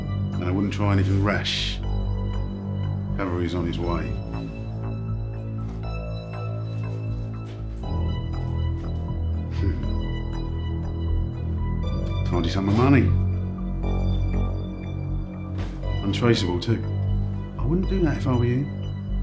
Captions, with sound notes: I wouldn't try anything rash, the cavalry's on it's way. [chuckles] A tidy sum of money. Untraceable too. I wouldn't do that if I was you.